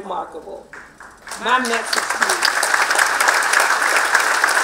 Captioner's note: applause